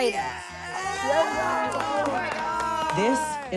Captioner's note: everyone cheering